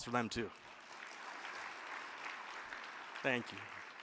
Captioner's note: crowd clapping